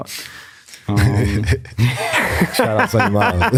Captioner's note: chuckles; laughs